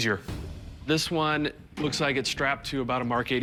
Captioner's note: none